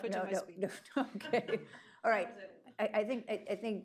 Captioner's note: laughs